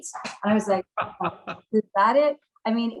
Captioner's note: chuckles